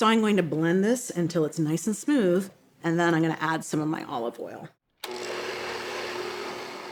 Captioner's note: blender whirring